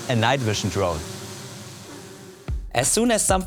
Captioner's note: drone whirring